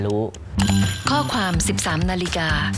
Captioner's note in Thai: เสียงนาฬิกาปลุก